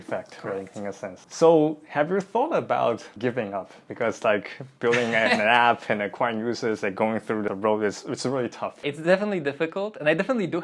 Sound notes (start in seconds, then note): 4.8 laughs